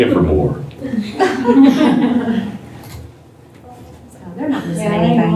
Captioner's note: laughter